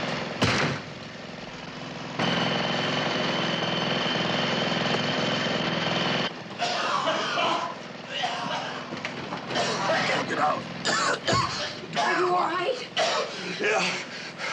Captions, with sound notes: [motor running loudly] [Mac coughing] Can't get out. Are you all right? Yeah.